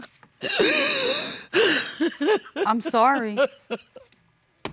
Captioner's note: crying